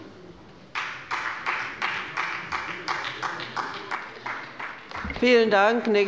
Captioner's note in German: Beifall bei der SPD